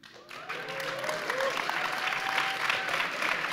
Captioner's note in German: Applaus